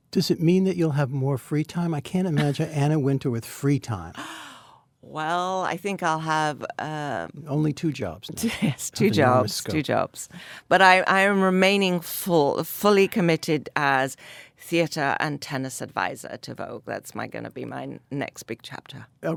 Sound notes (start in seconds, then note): 2.3 Anna laughs; 9.0 laughs